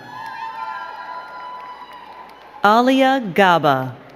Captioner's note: crowd cheering and clapping